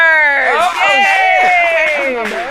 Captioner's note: cheering